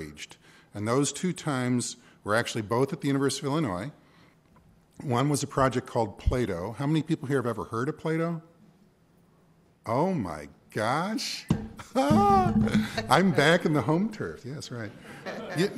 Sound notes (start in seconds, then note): 11.8 laughter